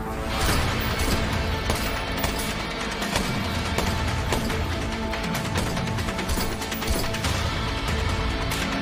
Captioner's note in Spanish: Disparos